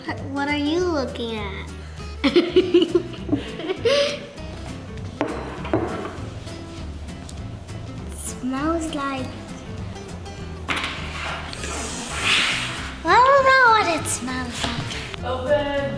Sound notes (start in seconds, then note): 2.2 laughs; 11.4 sniffs